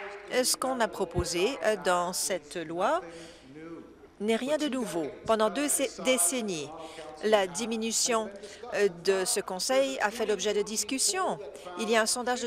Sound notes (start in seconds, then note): 0.7 applause